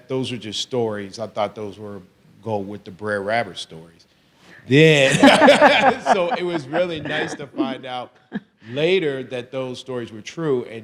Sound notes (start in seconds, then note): 5.0 everyone laughs